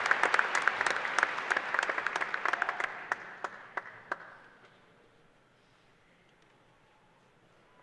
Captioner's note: applause